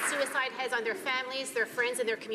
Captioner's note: applause